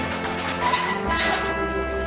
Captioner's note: cage rattles